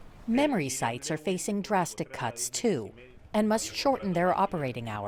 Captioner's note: voice-over